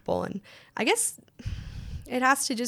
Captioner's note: sighs